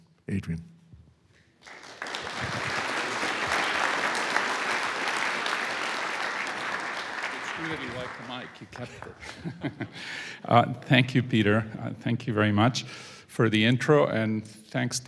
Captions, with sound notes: Adrian. (audience applauds) - It's clearly you like the mic. You kept short. Thank you Peter. Thank you very much for the intro and thanks Tom